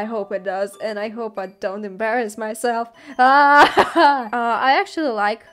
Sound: crying laughter

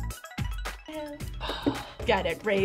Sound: upbeat music; sighs

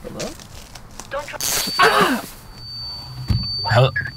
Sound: buzz; high pitched ringing

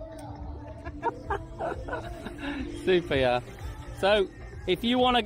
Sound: laughs

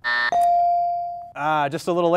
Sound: timer and ding sound simultaneously

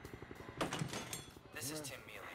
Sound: door opens

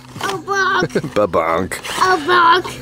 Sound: chuckling

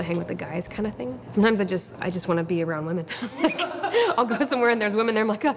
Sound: laughs

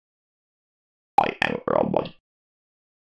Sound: sound of robot

